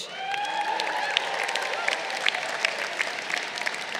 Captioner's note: crowd cheering